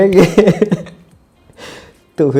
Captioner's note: laughs